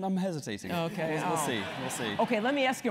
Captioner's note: laugh